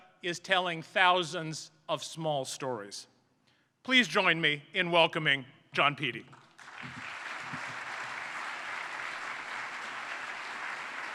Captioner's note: applause